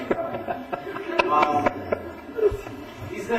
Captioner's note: laughter